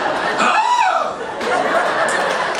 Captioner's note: audience laughing; yells; audience laughing